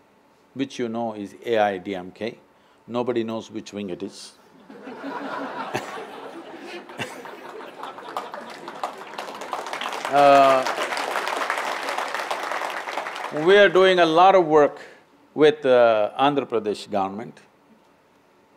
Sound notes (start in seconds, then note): 8.9 laughter/Applause